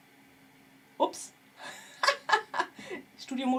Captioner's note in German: gelächter